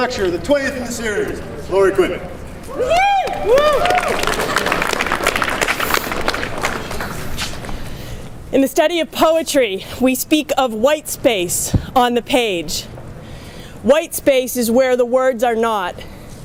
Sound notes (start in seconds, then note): 2.7 audience cheers